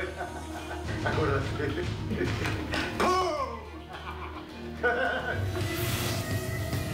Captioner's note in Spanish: Risas